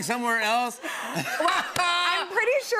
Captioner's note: laughter